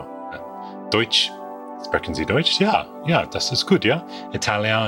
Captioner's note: speaks foreign language